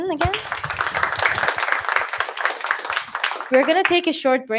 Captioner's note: applause